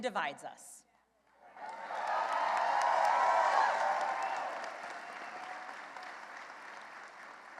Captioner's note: cheering and applause